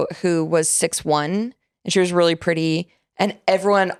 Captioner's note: none